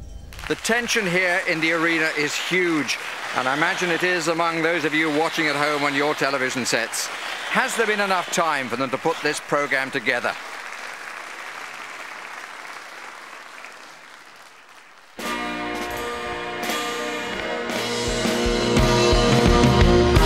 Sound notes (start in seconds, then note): 10.5 crowd applauds